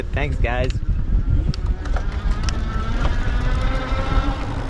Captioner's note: engine roaring